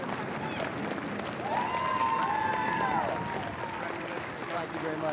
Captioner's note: audience cheering and applauding